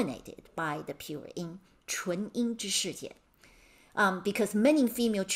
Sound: speaking in Mandarin

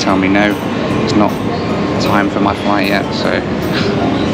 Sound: chuckles

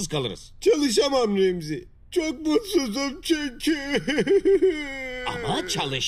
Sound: cries

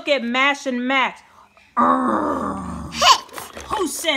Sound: growls

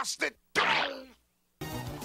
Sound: splat

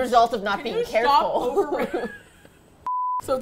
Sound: both laugh

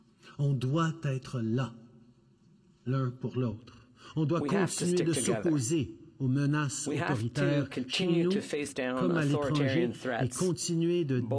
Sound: speaking French

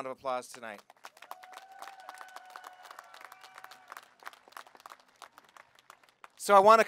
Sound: applause

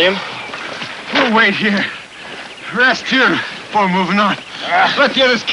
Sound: out of breath; York grunting

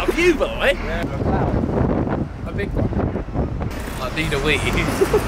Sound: wind blowing

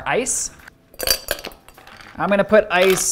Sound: ice clinking

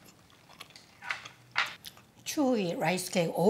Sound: food smacking

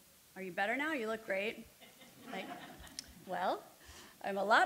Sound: audience softly laughing

